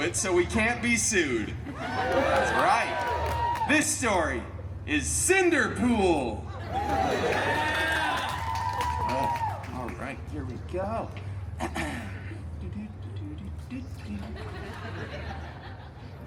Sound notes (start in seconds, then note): 1.7 guests cheering; 6.6 guests cheering and applauding; 14.1 guests laughing